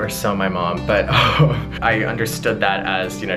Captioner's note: laughing